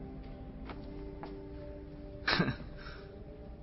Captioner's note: sean chuckling